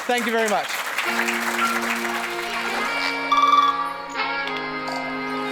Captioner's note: attendees applauding